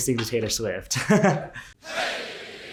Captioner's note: laughs; chanting